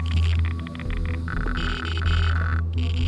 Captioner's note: crackling intensifies